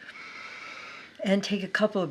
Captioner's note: breath whooshing